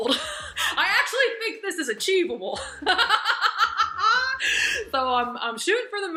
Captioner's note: laughs loudly